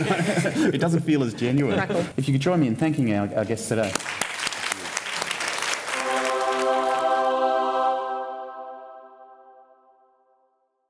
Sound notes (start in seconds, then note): 3.8 applause